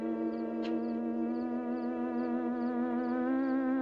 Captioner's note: none